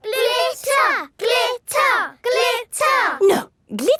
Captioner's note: chanting